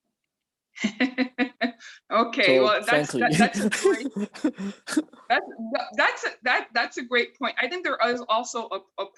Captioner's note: laughs